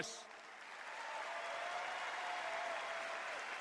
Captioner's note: cheers and applause